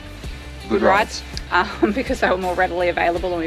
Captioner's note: chuckles